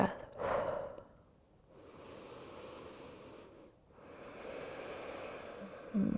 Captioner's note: inhaling and exhaling